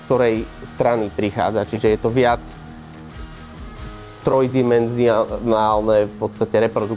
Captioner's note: distortion